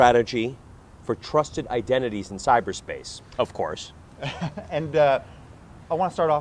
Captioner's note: laughter